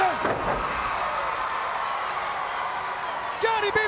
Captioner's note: crowd cheering